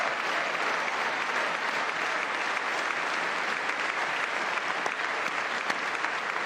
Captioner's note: applause